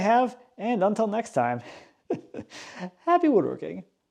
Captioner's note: laughs